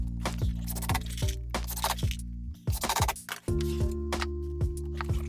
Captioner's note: drill whirring; gentle music